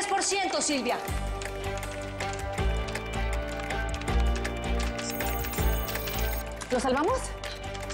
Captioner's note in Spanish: Sonidos al teclear